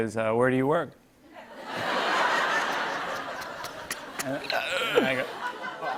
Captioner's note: laughter